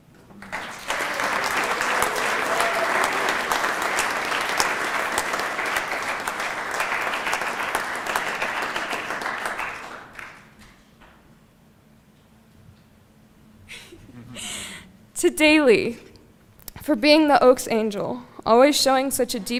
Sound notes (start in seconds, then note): 4.3 applause